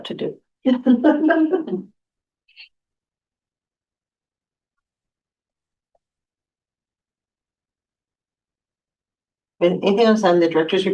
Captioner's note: laughter